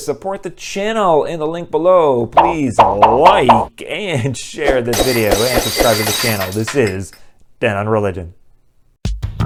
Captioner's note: glass breaking